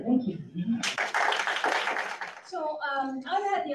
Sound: audience claps

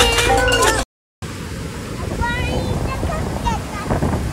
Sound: wind blowing

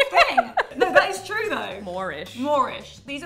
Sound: laughing

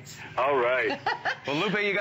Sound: laughter

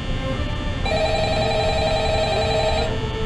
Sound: phone Rings

